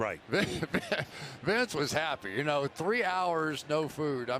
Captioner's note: laughs